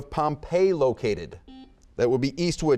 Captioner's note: buzzer beeping